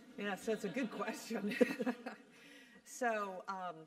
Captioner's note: laugh